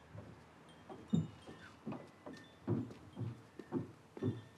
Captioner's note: wind chimes chiming